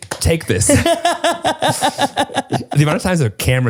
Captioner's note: laughs